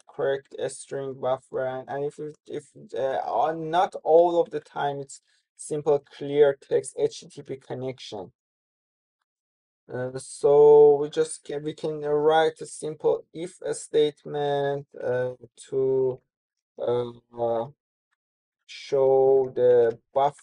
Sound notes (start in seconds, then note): 15.7 pause